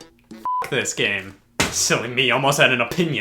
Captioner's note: beep